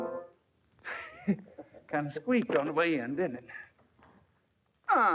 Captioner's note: laugh